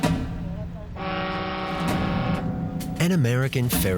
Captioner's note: boat horn bellows